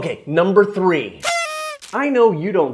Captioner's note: party horn squeaking